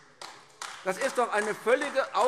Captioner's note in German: Beifall AfD